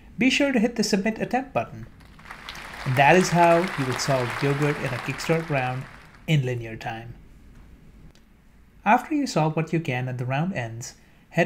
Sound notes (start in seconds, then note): 1.9 applause